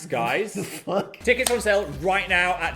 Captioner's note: hands clapping